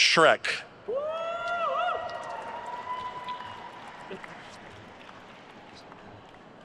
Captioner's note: attendees cheering and applauding